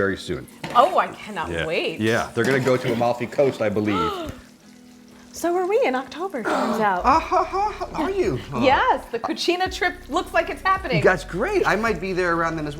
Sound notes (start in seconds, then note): 3.8 gasps